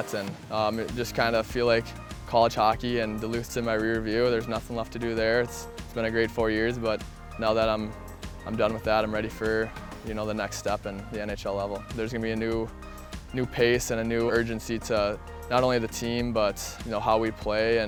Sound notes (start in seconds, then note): none